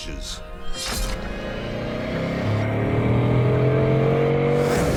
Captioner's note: engine roaring